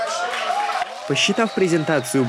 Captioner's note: applause